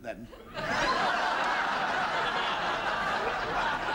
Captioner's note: laughter